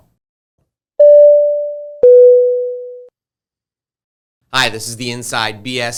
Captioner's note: dinging sound effect